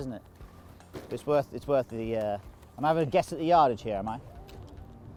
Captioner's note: club hitting